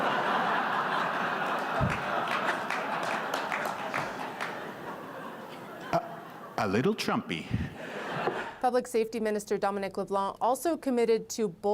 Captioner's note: laughter